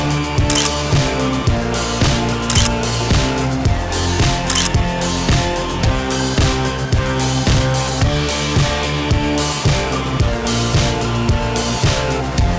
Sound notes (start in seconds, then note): 0.5 photoclick; 2.5 photoclick; 4.5 photoclick